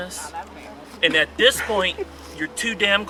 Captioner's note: women laughing